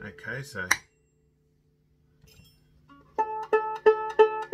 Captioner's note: tuning fork pings; plucks violin